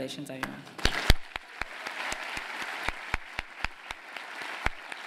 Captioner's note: applause